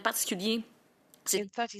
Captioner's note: speaking French